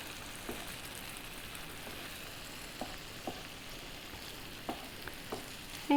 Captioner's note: spoon stirring in pan